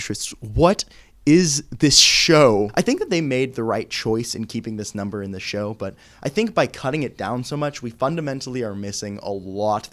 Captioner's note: none